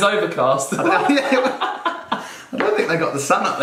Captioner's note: laughing